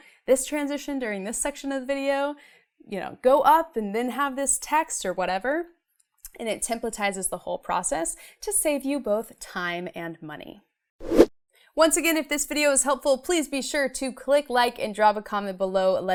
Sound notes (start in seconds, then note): 11.0 air whooshing